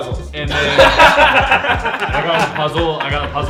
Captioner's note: laughing